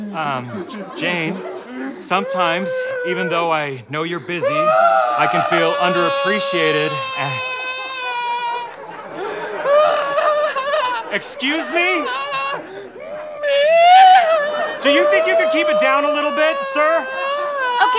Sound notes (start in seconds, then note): 4.4 Garth wailing in background; 7.8 screeching; 13.7 very high-pitched